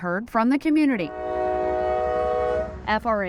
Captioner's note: train horn blowing